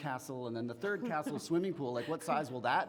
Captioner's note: woman laughing